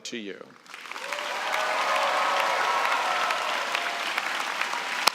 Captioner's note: cheering and applause